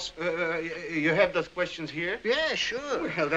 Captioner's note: stuttering